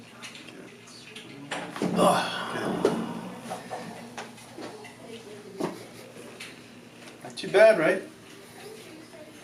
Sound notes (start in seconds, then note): 1.9 thumping; 1.9 groans